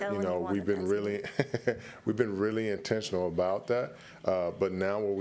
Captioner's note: chuckles